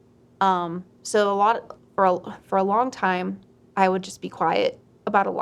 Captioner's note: stutters